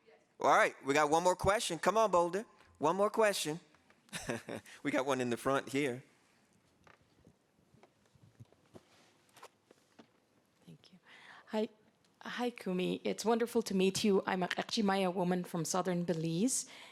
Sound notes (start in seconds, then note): 4.1 laughs